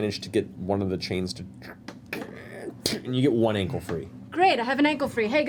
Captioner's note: snapping sound